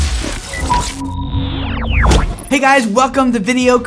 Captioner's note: glitching